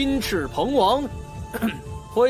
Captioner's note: cough